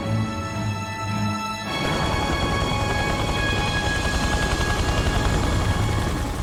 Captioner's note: helicopter buzzing